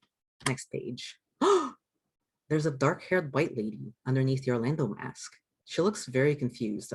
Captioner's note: gasp!